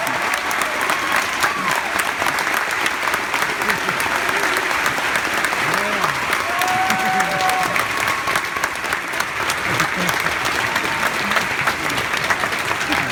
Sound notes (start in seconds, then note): 0.0 applause; 2.3 continued applause